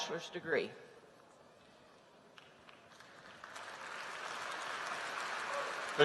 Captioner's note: applause